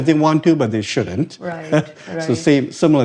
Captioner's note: chuckles